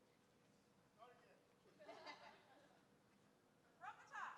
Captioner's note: scattered laughing